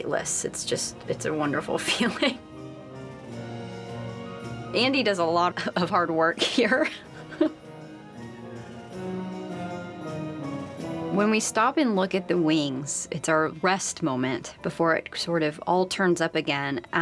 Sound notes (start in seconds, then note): 2.4 dramatic orchestral music; 6.4 laughing